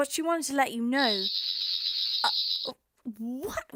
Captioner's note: loud sonic warbling